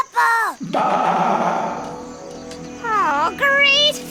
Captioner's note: Wiley echoed bleating